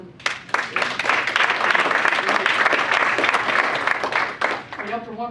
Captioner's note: audience applauds